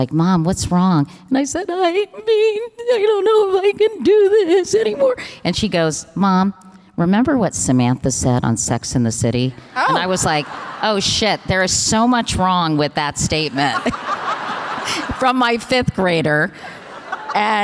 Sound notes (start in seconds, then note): 9.6 audience laughter; 13.4 audience laughter